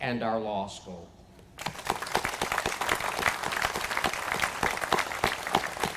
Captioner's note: applause